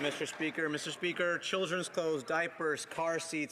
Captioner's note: some Applause